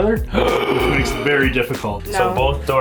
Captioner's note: Scott gasps